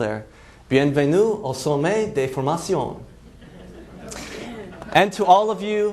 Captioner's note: foreign language; laughs